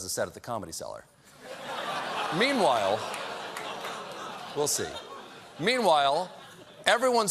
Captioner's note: laughter